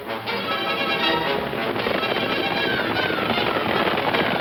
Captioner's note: horse hooves clomping